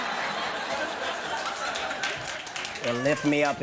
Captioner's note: scattered applause